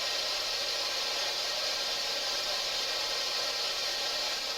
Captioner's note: white noise buzzes